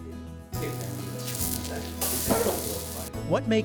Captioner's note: sound of griddle sizzling